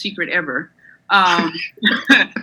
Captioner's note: laughs